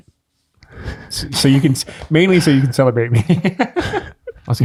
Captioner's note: laughs